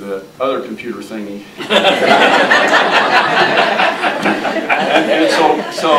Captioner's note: audience laughing